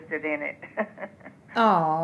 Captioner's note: laughs